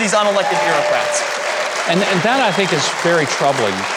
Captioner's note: audience cheering